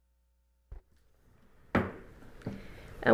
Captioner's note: gavel hitting dais